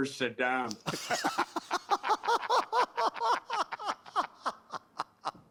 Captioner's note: laughter